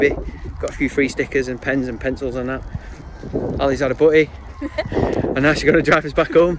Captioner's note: laughs